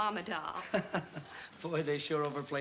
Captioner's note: laughter